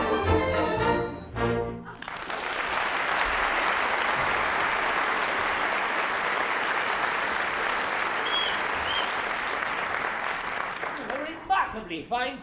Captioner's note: applause